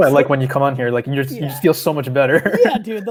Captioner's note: laughs